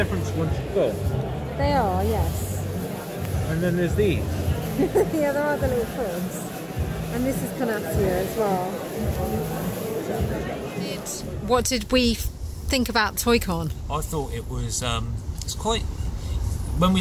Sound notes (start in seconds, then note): 4.7 laughs